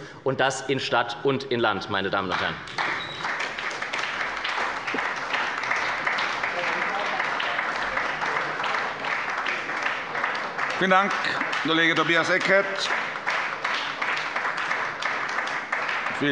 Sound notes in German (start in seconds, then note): 2.7 Beifall bei der SPD